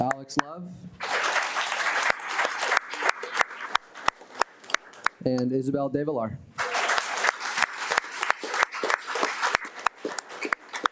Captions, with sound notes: Alex Love. (audience applauding) And Isabel Del Villar. (audience applauding)